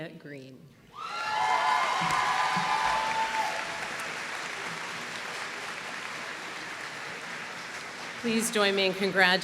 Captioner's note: applause